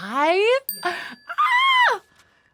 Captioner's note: tone dings